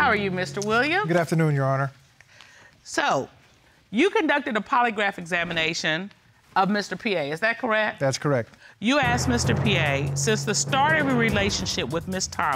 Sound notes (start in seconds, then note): none